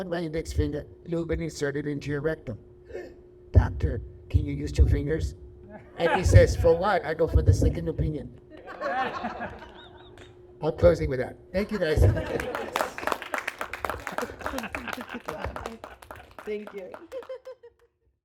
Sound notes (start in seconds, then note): 11.9 laughter and applause